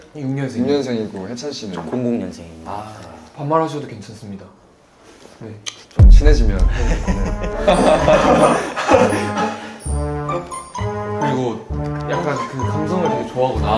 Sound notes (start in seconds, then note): 7.5 laughing